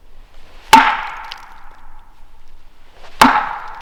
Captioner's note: wood thwacking